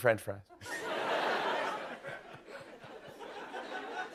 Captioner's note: laughter